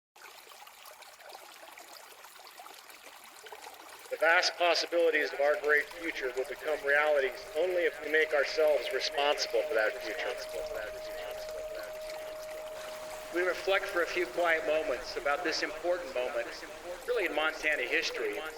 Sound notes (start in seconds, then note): 0.5 water trickling; 13.6 ghostly Voiceover